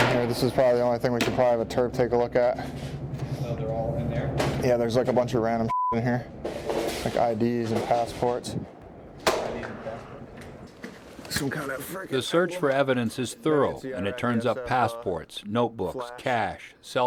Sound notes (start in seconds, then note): 11.4 voiceover